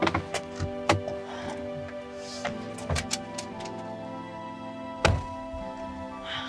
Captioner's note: Joy sighs